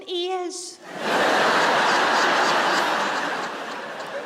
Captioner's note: audience laughs